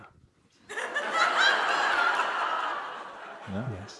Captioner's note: laughter from the audience